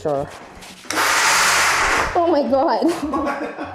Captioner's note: machine roars